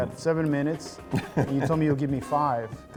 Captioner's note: laughs